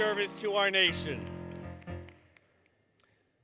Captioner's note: applause, Music